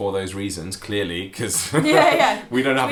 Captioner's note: laughing